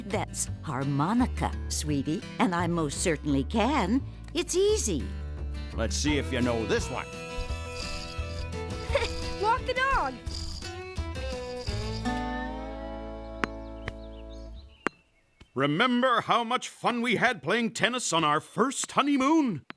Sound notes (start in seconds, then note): 14.8 ball Bouncing